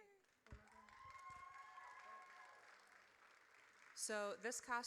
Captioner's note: audience cheers